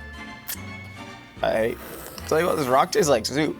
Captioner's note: sucking rock